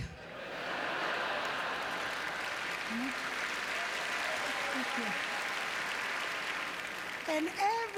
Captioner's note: applause